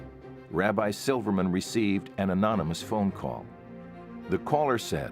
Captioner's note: none